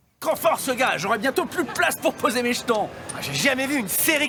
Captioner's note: speaking in French